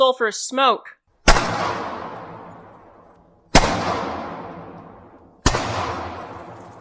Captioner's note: isolated, amplified distinct, steady gunfire for the cracks